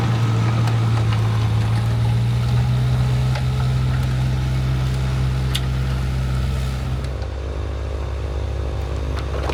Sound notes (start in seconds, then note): 2.3 vehicle rumbling continues